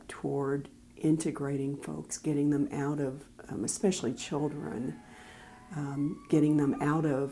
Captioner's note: background siren